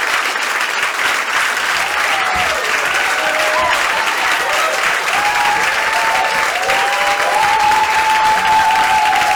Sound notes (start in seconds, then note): 3.7 cheering continues